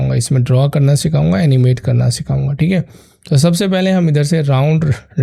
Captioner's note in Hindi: नाक से की जाने वाली आवाज़